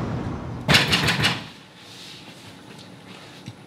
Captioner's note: knocking